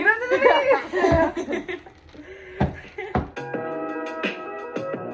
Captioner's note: laughs